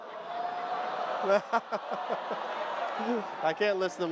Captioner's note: laughs; audience clamors